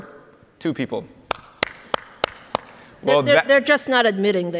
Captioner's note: applauds